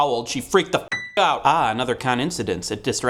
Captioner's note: ding